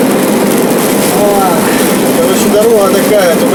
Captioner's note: sighing